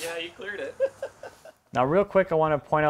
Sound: laughs

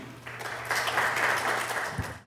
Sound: audience applauds

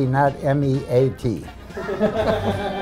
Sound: laughter

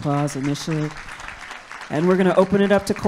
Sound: audience claps

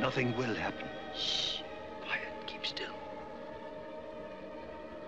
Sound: whispering

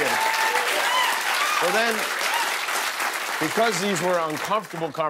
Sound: cheers and applause

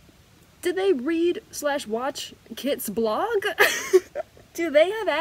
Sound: laughing

